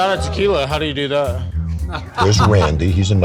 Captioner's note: laughs